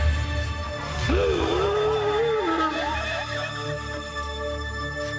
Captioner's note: tense and menacing electronic music; Lasky gasping over menacing electronic music; eerie and menacing electronic music